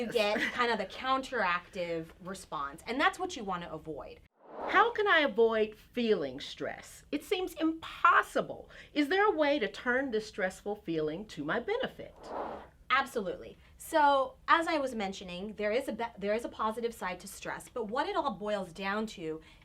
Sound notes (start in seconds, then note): 4.4 air whooshing; 12.1 air whooshing